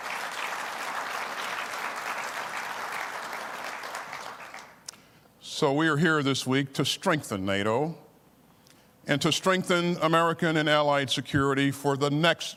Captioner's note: applause